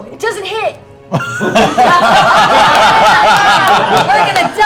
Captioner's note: laughter